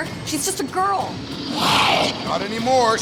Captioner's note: shrieks